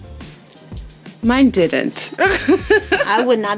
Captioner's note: laughter